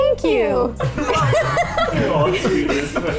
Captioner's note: everyone laughs